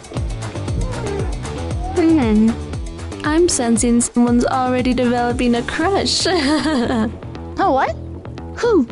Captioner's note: laughs